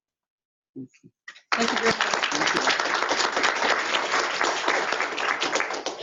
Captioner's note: applause